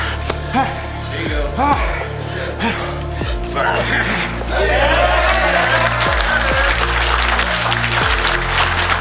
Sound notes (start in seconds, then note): 0.9 grunts; 3.6 audience cheering; 4.6 hands tapping; 6.1 audience clapping; 8.7 soft music